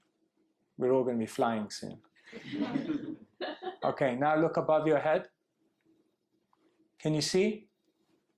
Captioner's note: laughs